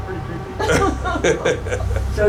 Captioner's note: laughing